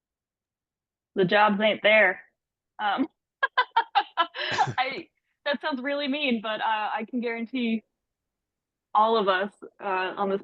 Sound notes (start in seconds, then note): 3.5 laughs